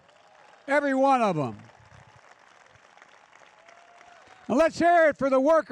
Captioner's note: applause